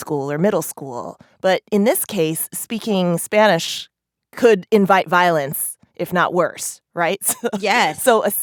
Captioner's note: laughter